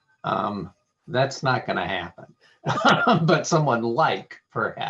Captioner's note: laughing